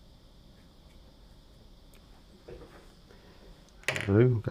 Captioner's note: silence